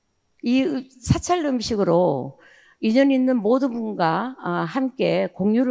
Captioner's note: speaking in foreign language